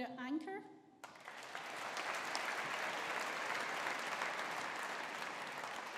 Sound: audience applauding

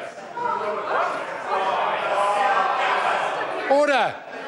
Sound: members shout

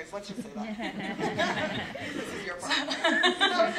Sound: laugh

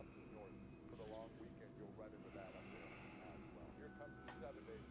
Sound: distant TV chatter

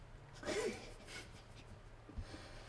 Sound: amazed laugh

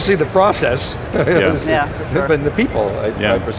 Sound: laughing

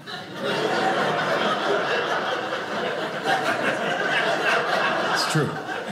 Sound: audience laughing

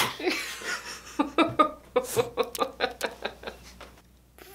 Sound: sneezing; laughing

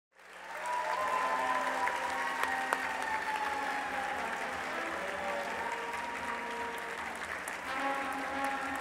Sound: applause

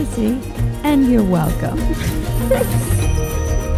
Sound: upbeat music; laughing

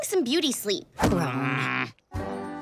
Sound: groaning

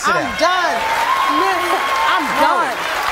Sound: audience applauding

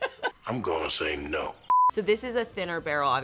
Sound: laughs; TV beeps

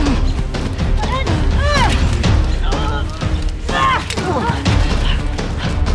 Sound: grunts of exertion

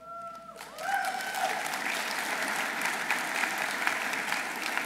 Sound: audience applauding

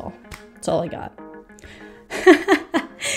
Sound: laughs

